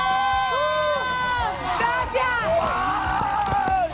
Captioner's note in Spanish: gritos